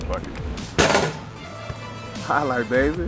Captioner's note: basketball falling through rim and net